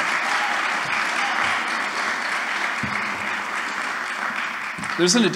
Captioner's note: applause